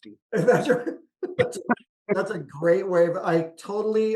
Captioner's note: laughs